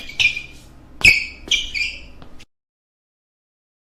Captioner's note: sneakers on gym floor sounds